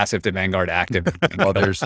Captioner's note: laughs